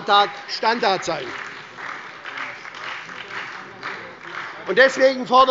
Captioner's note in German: Beifall bei der SPD sowie bei Abgeordneten der LINKEN und der FDP